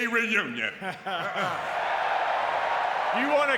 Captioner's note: audience cheering and clapping